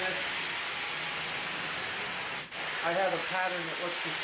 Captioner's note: spray gun hissing